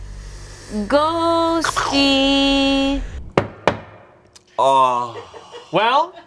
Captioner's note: knocks twice